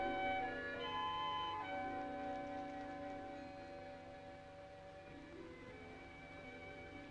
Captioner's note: none